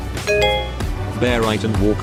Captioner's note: chiming